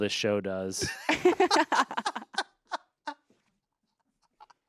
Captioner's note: everyone laughs